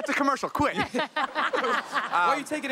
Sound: all laughing

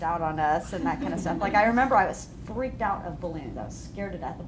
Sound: laughter

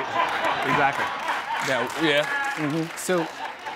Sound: laughter

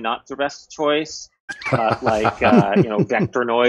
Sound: laughter

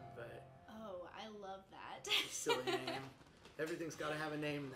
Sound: chuckles

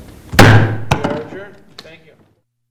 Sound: gavel thumps

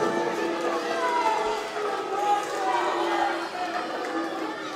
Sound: crowd booing

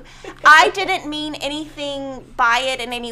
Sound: laughing

